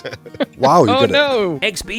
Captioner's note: laughs